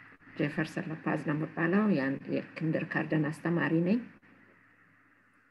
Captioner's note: speaking in foreign language